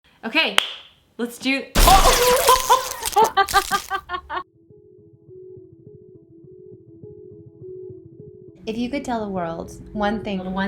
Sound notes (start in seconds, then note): 1.8 phone Drops; 2.1 laughs; 4.6 light music